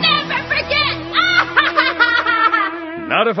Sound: laughs evilly

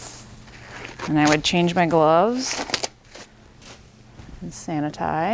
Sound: gloves snapping

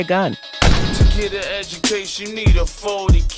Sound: gun firing

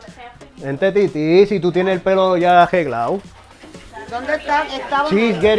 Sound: in Spanish

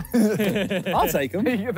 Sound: all laughing

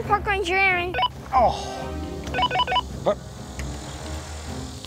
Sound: sighs

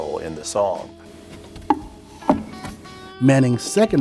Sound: clunk

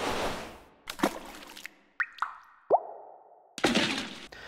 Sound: splashing

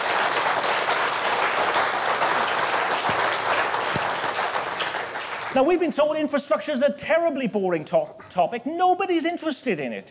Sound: applause

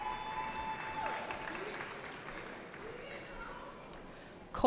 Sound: cheering

